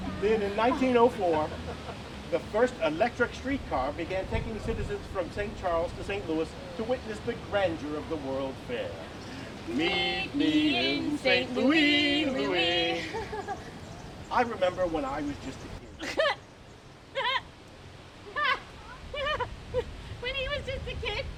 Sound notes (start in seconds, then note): 9.5 laugh